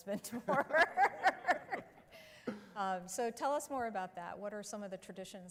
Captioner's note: laughter